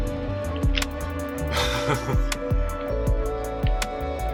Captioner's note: laughs